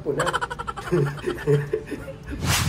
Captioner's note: laugh